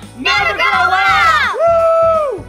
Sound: cheering

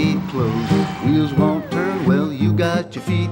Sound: cheering

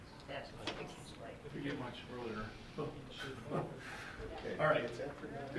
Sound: laughs

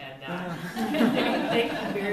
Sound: laughter

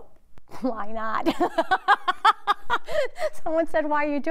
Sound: laughs

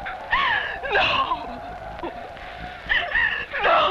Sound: whimpers

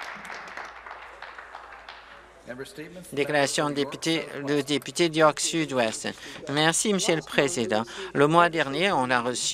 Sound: applause

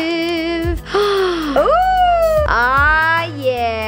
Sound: gasps

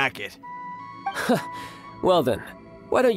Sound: chuckles

